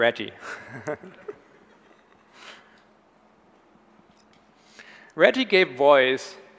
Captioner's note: Tobi laughs; audience laughs